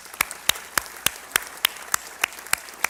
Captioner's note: applause